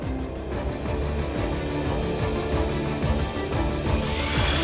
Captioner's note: machine whirring